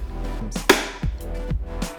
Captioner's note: bang of clapper board